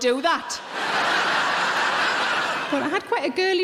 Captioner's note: audience laughing